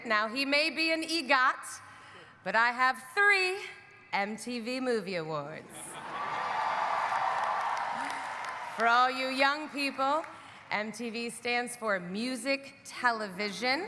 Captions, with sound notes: Now, he may be an EGOT, but I have 3 MTV Movie Awards. (audience cheering) (audience applauding) For all you young people, MTV stands for Music Television,